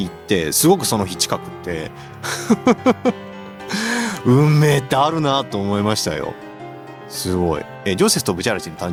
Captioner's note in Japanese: 笑い